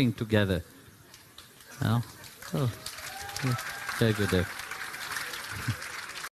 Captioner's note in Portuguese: Aplausos